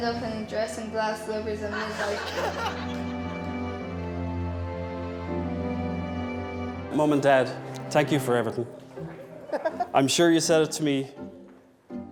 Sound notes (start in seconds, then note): 1.7 guests laughing; 4.8 emotional orchestral music